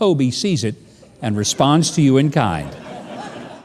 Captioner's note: audience laughing